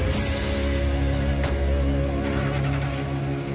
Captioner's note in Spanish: Ruido del vehículo